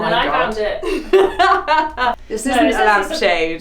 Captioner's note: laughs